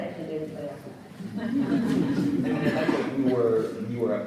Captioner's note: audience laughs